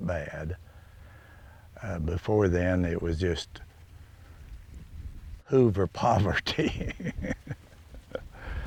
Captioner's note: laughs